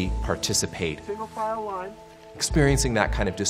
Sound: muffled Voice

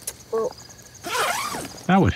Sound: zipper sound

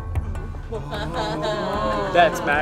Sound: audience gasps

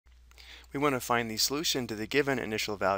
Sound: voiceover

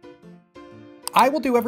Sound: click

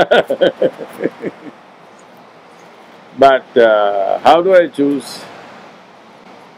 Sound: laughs

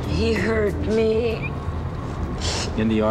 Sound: sniffling

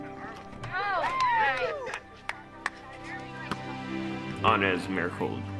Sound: cheering and clapping

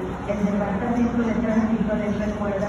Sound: Spanish Announcement

